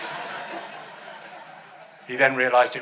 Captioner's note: audience laughing